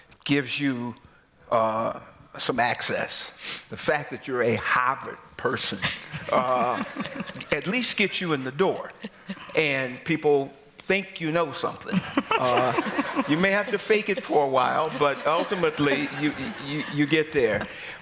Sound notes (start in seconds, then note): 5.8 laughter; 11.8 laughter